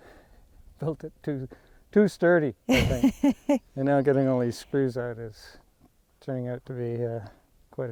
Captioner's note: laughs